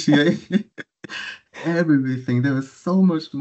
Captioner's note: laughing